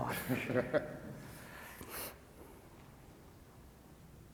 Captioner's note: laughs